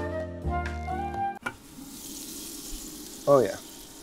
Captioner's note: elevator music; chicken sizzling